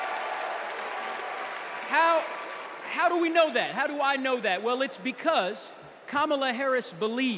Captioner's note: cheers and applause